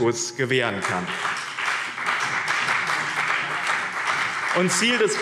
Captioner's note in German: Beifall BÜNDNIS 90/DIE GRÜNEN und CDU